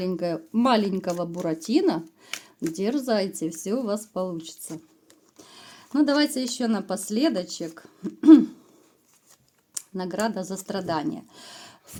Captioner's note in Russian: откашливается